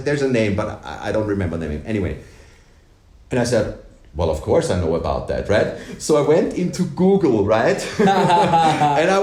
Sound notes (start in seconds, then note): 7.8 laughs